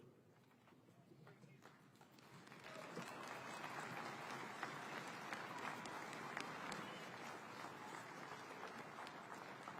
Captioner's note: applause